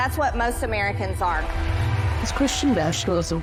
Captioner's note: audience applauding